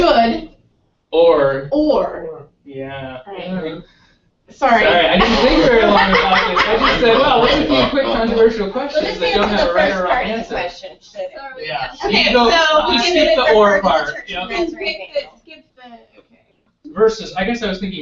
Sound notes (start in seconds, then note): 4.8 laugh